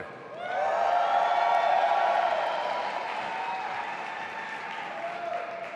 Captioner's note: audience applauding and cheering